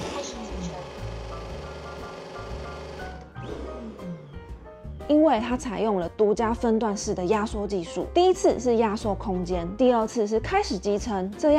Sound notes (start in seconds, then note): 0.0 dust collection sound; 3.4 dust collection sound +1